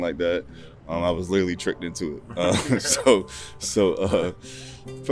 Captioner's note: chuckles